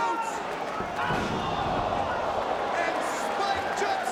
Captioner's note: feet stomp